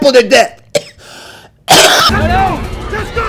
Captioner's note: coughs; guard shouting repeatedly